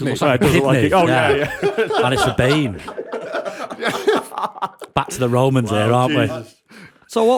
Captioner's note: laughter